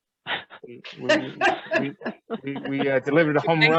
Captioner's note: laughs